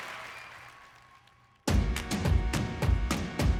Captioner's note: crowd applauding